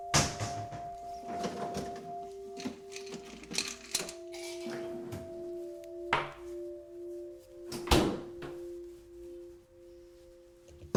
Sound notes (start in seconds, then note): 0.1 cabinet thudding; 2.5 ice clinking